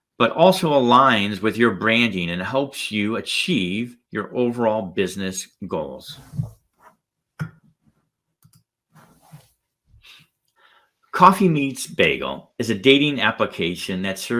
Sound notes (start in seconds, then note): 6.5 arm shuffling; 6.5 mouse clicking; 8.9 arm shuffling